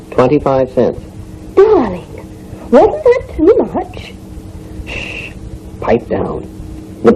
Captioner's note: in a louder whisper